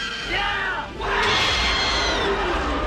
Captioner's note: Graboid squeal